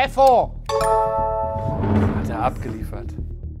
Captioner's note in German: Klingeln